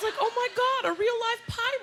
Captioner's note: laughter